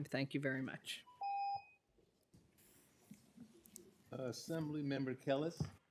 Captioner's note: timer tone